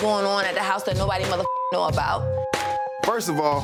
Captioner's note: beep